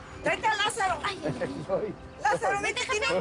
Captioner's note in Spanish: Riendo